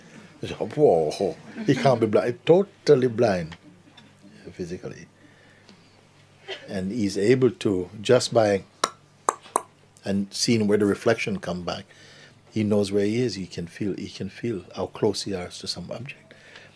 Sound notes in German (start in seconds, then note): 9.3 Mooji klickt mit der Zunge